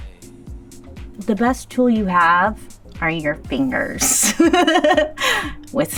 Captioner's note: laughs